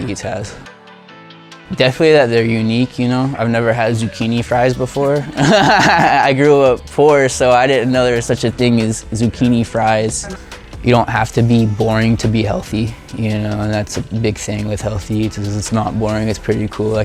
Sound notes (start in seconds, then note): 5.0 laughs